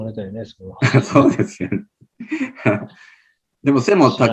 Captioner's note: laughs